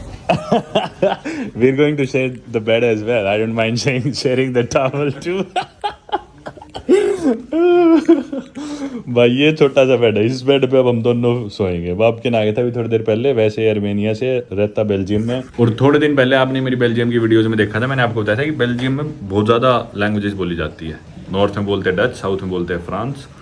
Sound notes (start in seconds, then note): 0.2 laughing